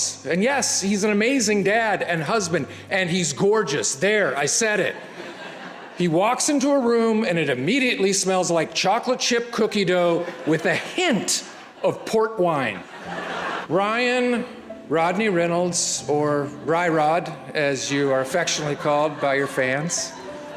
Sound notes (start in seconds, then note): 13.1 audience laughs